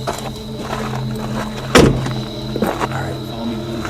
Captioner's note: car door slams